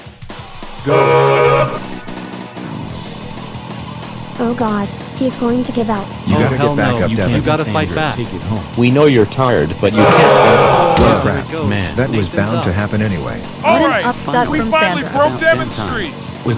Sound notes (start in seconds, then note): 0.8 horn sound; 9.9 horn sound, audience groaning